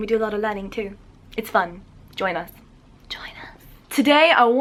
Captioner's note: whispering